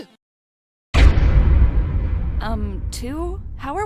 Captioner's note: loud boom